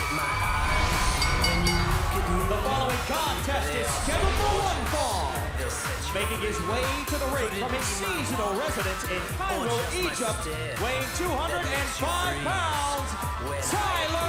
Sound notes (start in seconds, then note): 1.6 bell